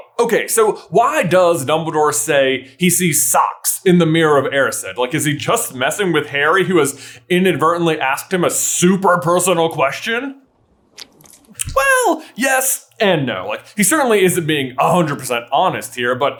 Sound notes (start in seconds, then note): 11.0 splurts